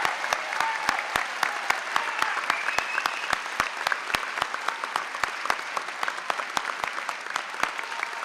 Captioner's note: applause